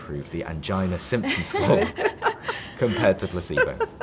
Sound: laughs

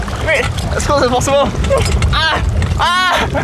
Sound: shouting

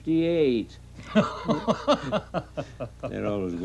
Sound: man laughing

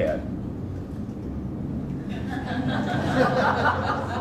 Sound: audience laughs

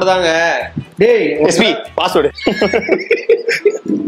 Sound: laughs

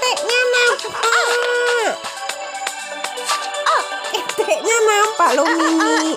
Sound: clap

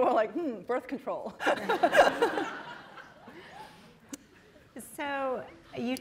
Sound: laughter

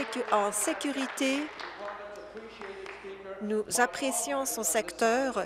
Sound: applause

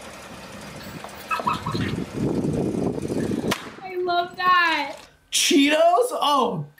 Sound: laughs

